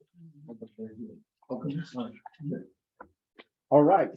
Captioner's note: members chattering